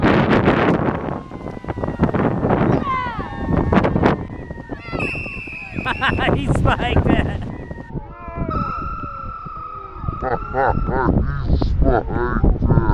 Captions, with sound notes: (whistle blowing) Ah, he spiked it.